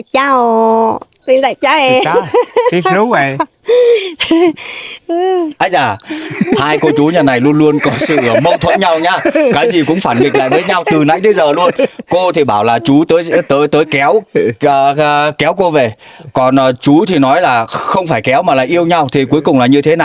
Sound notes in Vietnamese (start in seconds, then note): 8.9 tiếng cười